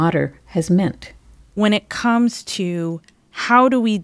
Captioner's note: soundbite of archived recording